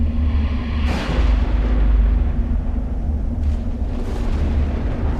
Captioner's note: dramatic music; thunder rumbling